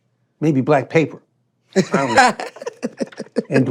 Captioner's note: laughing